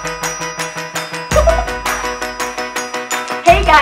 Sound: upbeat music; chuckles; upbeat music

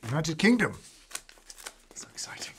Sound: tears into envelope

